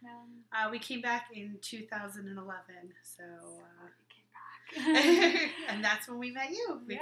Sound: laughing

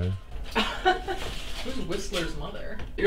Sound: laughing

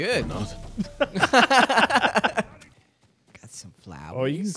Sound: both laughing

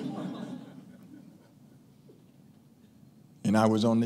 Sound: laughing

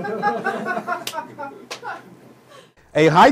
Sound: laughter

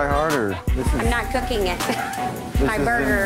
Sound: laughs

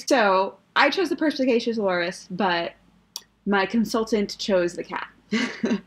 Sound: laughs

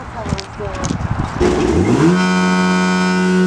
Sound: blower starts; buzz

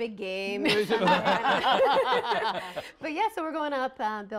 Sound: laughter

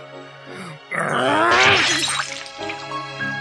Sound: SFX: glass smashed

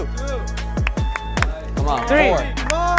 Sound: spectator claps hands

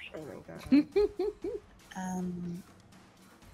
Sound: laughs

